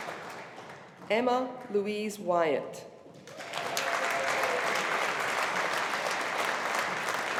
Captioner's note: audience applauding